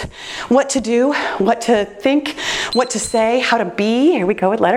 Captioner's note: timer beeps